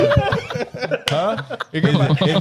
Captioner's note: laughing